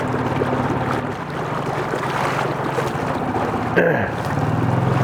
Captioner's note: water lapping